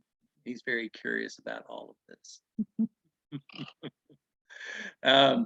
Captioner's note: laughing